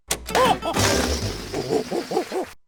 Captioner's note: gorilla hooting; balloon whooshing